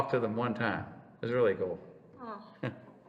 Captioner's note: laughs